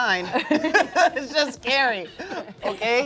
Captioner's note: laugh